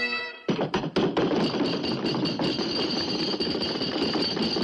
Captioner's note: bagpipes end; pounding table